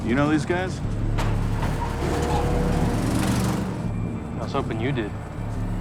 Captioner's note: trucks rumbling